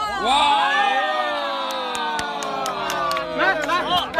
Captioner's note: crowd applauding